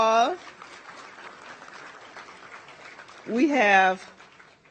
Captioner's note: audience applauds